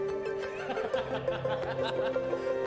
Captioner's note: laughs